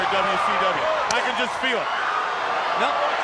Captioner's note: chop striking